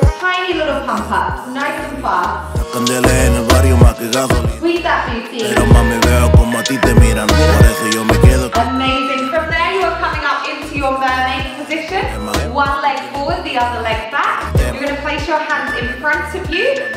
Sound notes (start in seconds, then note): 5.5 timer beeping